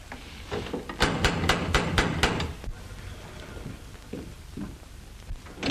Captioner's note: knocking continues